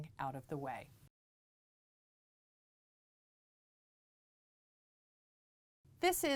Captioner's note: no Sound Present